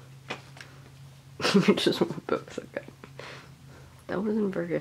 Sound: laughing

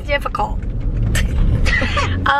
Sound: both laugh

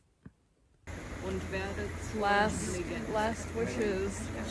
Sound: German

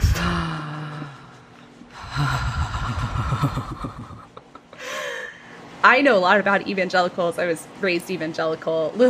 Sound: gasps

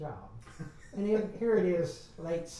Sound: laughs

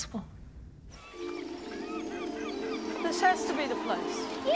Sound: birds cawing

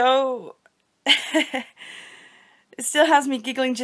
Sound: genuine giggles

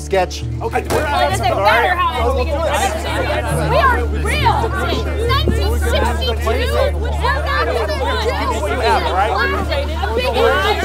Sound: panicked chatter

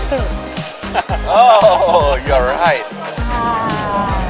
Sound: chuckles

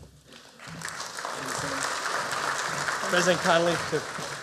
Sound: applause

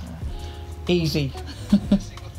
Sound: laughs

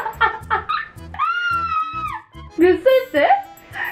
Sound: scream of pain

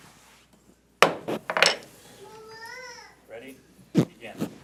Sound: gavel bangs

